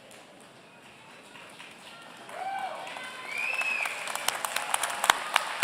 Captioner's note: audience cheering